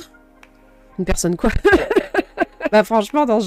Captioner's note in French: rires